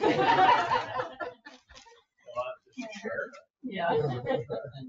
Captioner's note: all laugh